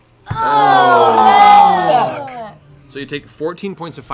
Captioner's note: sighs and groans